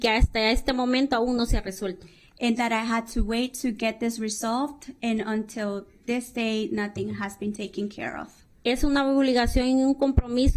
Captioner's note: speaking spanish